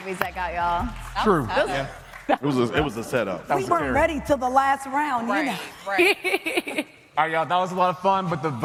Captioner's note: applause